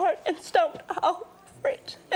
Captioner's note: chokes back tears